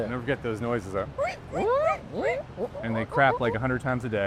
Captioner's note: imitating guinea pig squeaking